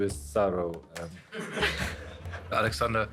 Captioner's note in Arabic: يضحك المراسلون